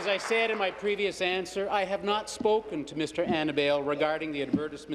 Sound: applause

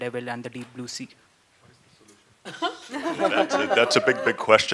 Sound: laughter

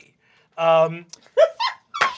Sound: giggling; laughter

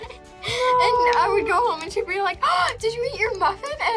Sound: laughs; gasps

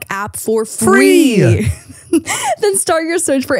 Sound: laughs

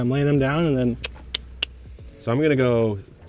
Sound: clicks repetitively

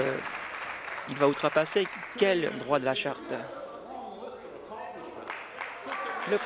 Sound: applause

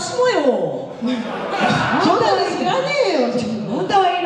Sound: laughs

